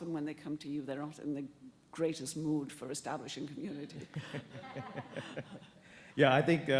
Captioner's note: laughter